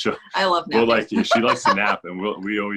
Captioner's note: laughs